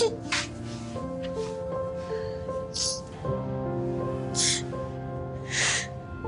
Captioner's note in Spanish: Sollozos